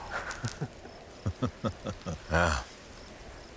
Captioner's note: chuckling